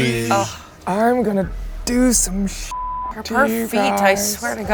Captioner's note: beep